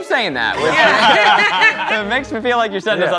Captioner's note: all laughing